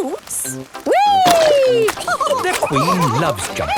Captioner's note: all laughing